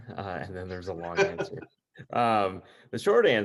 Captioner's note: laughs